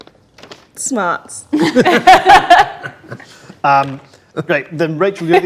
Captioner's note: group laughs